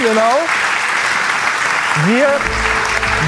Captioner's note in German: Applaus